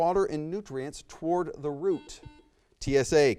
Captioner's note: buzzer beeps